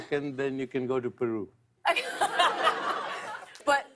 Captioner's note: laughter